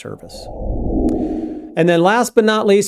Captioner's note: air whooshing